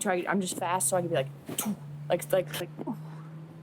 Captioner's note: vocalizes bullet deflecting